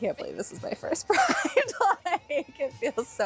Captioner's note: laughter